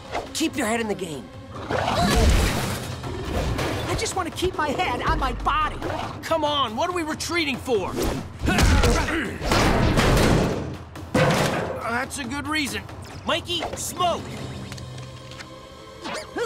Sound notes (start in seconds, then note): 1.8 screams; 2.1 growls; 8.4 groaning